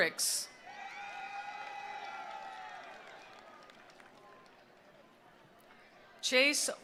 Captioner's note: attendees cheering; attendees applauding